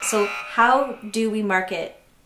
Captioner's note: buzzer beeping